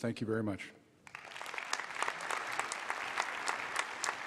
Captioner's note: applause